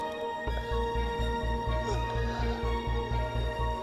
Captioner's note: yawning